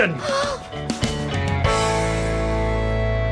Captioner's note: gasping